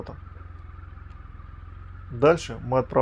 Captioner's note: motorcycle sound